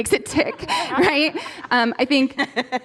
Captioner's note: laughter